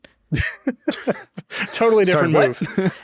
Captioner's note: chuckling